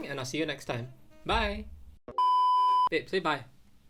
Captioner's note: sine tone chimes